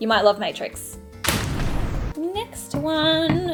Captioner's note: loud explosion